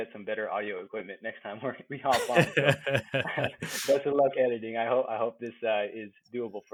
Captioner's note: laughing